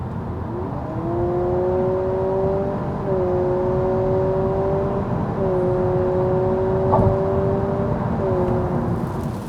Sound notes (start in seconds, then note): 2.5 car revving